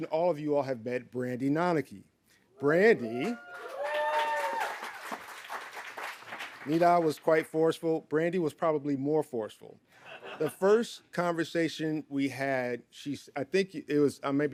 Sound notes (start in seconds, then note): 2.9 audience cheering